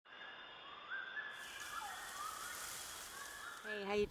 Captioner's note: birds whistling